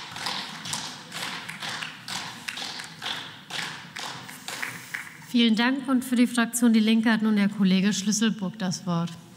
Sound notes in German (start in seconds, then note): 5.2 Beifall